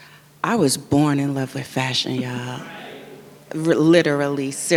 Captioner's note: audience member yells "right!"